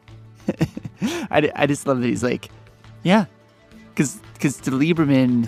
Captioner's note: laughs